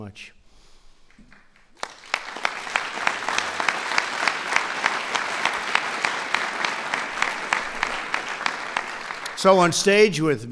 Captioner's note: applause